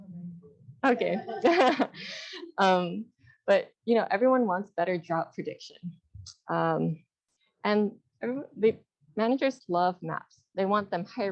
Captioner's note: laughter